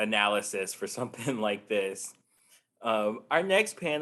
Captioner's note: chuckles